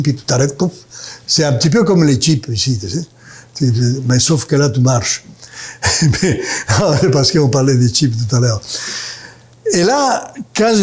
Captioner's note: laughs